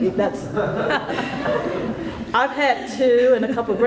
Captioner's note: laughter